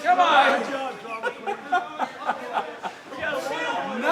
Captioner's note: instructor laughing